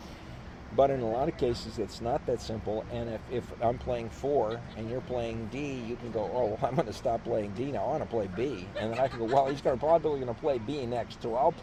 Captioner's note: laughs